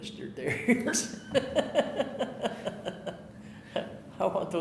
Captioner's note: laughing